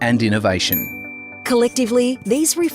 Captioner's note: bell dings